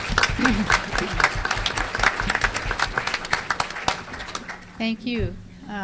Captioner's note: applause